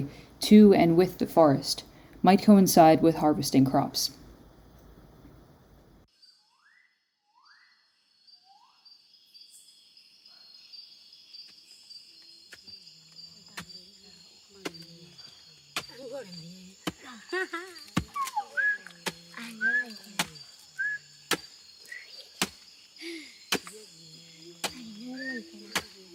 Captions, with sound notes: and with the forest might coincide with harvesting crops. [ Bird Calling ] [ Chopping Sound, Whistling, And Speaking In Foreign Language ]